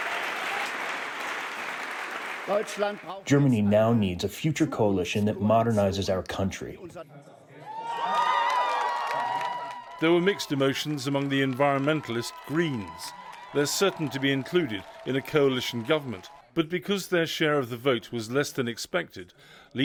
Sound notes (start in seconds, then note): 8.9 applause